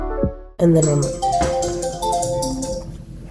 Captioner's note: alarm sound goes off